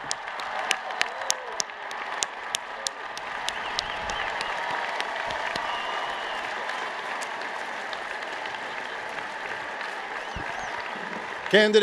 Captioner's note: applause